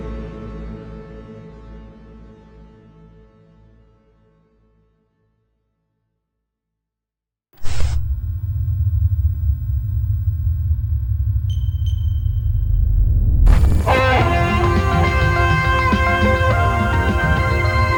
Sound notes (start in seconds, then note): 8.0 foreboding music; 12.1 electronic beeping; 13.5 lively music